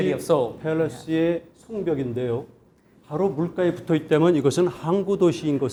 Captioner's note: speaking in Korean